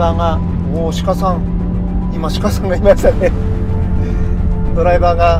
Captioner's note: laughs